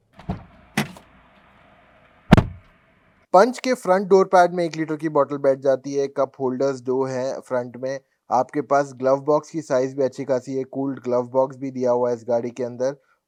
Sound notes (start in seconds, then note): 2.3 door Thud